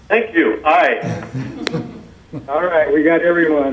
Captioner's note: laughing